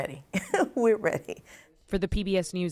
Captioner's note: laughter